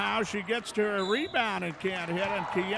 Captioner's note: referee whistling